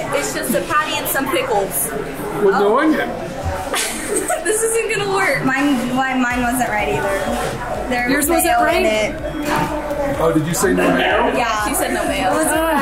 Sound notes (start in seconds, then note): 3.6 laughs